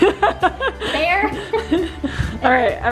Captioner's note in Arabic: يضحك الجميع